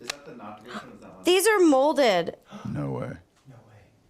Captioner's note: gasps